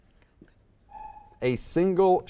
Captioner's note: timer buzzes